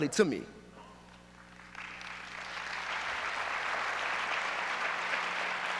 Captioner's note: audience applauds